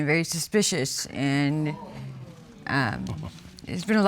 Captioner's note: audience exclaiming